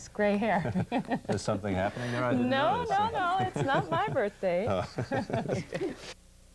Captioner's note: laughter; laughter